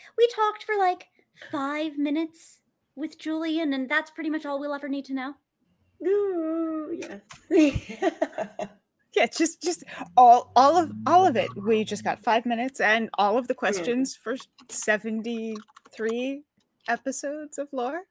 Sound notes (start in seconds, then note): 7.6 laughs